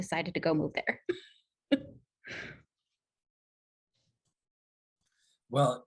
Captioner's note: laughter